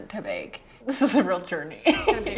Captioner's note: laughs